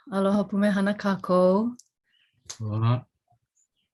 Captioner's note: speaks in Hawaiian